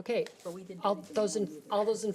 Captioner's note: overlapping chattering